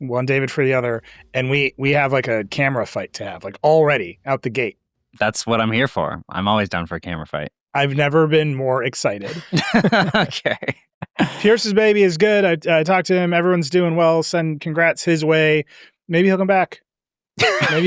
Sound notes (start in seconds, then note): 9.1 laughs